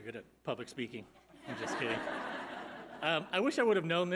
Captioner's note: audience laughing